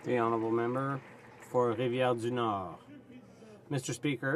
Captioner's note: some Applause